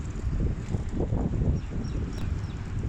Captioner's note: wind Noise